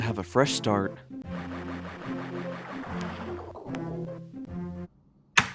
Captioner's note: splashing